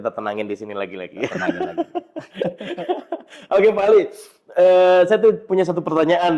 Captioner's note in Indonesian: tertawa